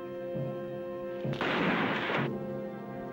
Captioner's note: gunshot